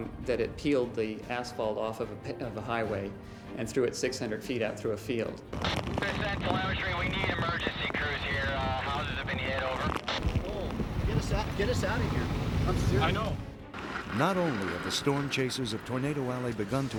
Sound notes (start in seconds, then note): 5.5 man on radio